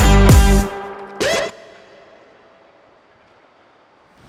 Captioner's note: music stops